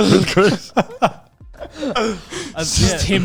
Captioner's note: laughing quietly